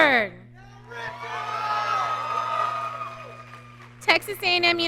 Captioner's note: audience cheering